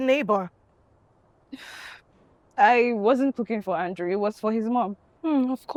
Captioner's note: scoffs